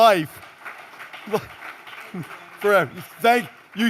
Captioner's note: applause